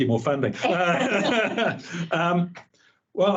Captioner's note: both laughing